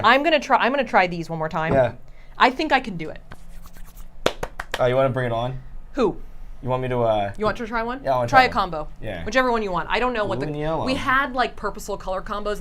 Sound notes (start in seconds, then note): 4.2 rubs and claps hands